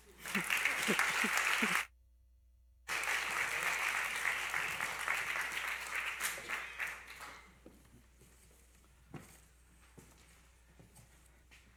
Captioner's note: applause